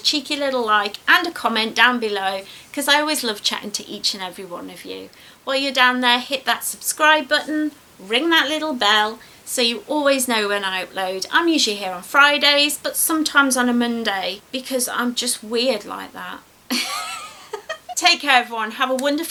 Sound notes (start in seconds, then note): 16.7 laughs